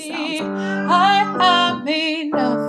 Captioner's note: cat meow; singing